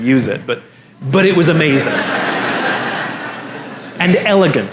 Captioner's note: La audiencia se ríe